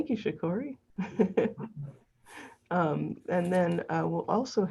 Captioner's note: laughs